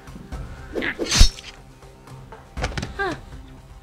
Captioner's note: stabbing sound can he heard